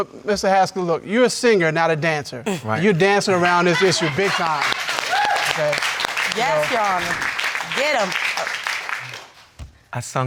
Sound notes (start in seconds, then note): 3.3 audience cheering